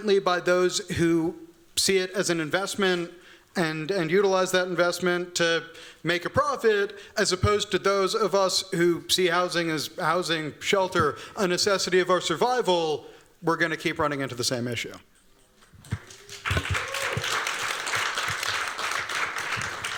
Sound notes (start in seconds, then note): 15.8 applause